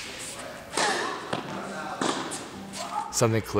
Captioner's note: grunts